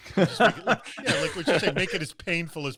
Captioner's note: laughs